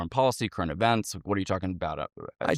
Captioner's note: stutters